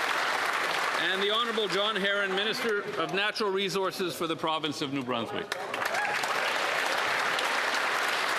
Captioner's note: applause